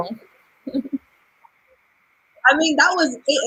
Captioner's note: pause